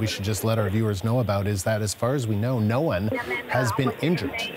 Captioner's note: speaking French